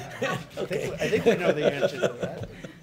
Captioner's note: laughs; laughter